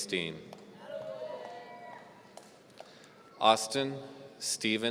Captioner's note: audience cheering